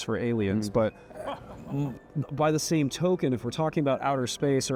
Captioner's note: guests laugh